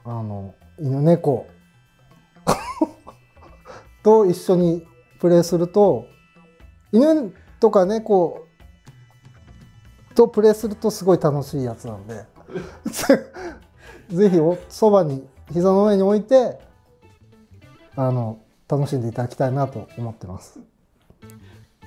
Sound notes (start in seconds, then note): 2.5 laughing; 12.5 laughing